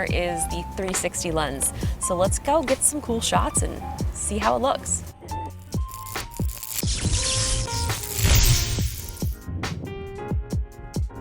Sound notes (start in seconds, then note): 5.4 upbeat music; 5.8 electric buzzing